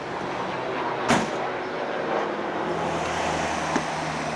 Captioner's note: car door slams